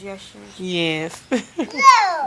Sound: laughs

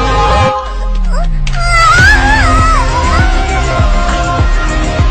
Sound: uhhh; instrumental

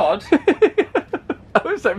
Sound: laughing

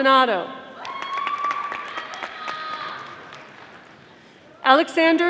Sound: audience applauding

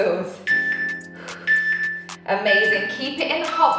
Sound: timer beeping

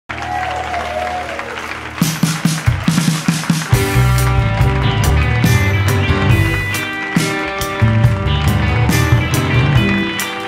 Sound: applause & the band starts playing

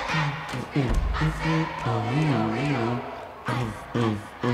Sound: humming along

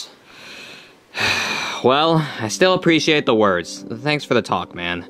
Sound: sighs

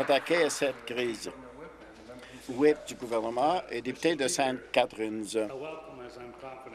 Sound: some applause

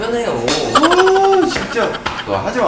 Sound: laughter

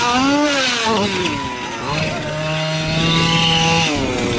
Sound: men cheer

